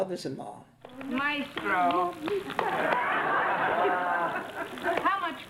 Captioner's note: audience laughs